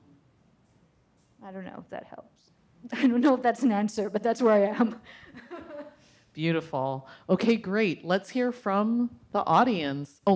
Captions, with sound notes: I don't know if that helps. I don't know if that's an answer, but that's where I am. (audience laughs) - Beautiful. Okay, great. Let's hear from the audience.